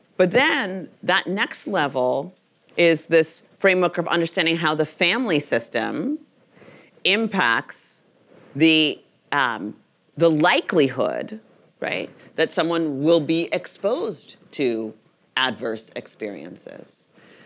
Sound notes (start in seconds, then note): none